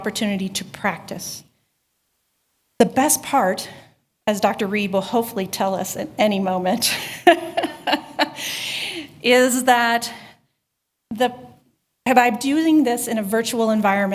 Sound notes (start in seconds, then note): 6.9 laughter